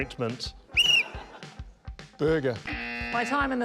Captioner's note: blows whistle; buzz!